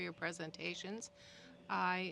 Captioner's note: speaking French